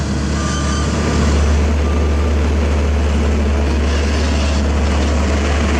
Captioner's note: traffic Rumble